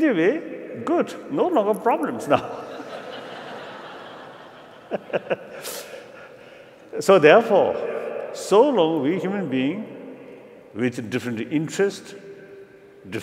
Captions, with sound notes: In the way, good. No longer problems now. [LAUGHTER] So therefore so long as we human being with different interests,